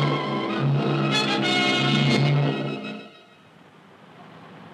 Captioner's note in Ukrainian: постріли